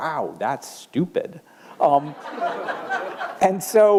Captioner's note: laughter